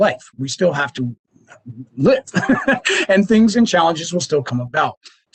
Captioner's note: laughs